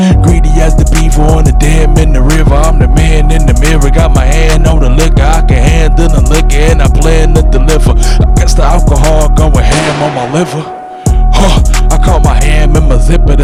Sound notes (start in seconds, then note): 9.6 gunshot